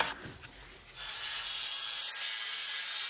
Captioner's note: high-pitched mechanical whirring